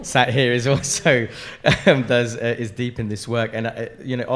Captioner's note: chuckles